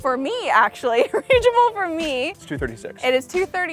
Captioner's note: laughs